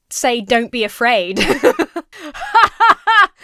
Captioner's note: laughs; laughs disingenuously